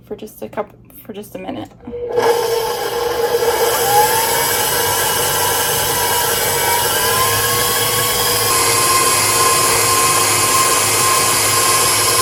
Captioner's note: electric mixer loud sound